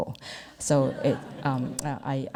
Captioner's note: audience laughs